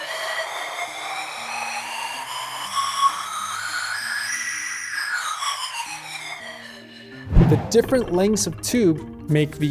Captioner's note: whistling wind sound